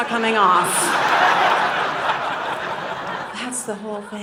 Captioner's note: audience laughing